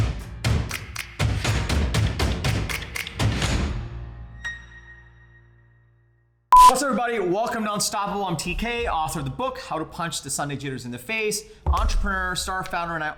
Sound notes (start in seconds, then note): 0.4 upbeat music; 6.5 beep